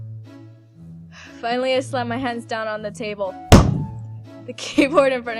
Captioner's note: slams hands on desk